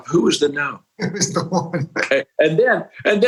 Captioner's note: laughing